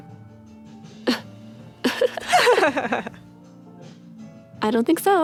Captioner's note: laughter